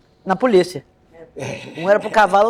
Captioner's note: laughter